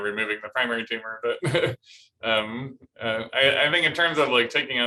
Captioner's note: laughter